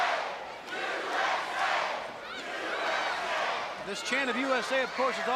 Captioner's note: crowd cheering